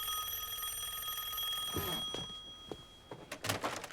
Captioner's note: rings